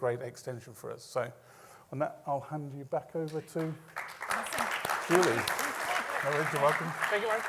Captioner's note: applause